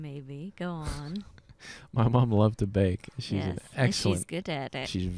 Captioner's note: laughing